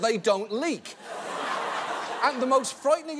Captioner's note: audience laughs